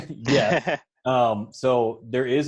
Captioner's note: laughs